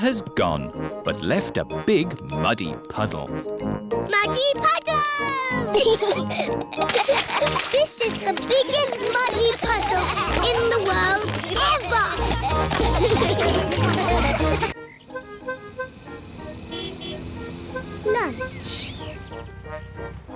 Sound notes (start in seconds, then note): 5.6 both giggling; 11.9 all giggling; 13.0 all laughing; 16.7 horn honks